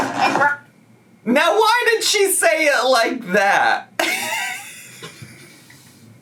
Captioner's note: laughs